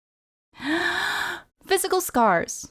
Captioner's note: deep inhale